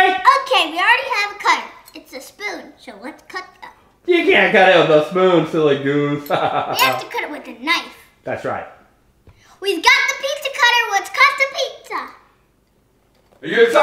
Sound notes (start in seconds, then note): 6.3 laughs